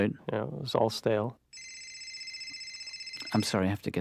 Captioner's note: cell phone ringing